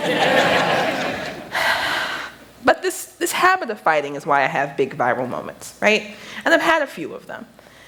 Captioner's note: laughter